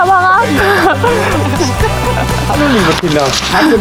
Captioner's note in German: Lachen, gelöste Musik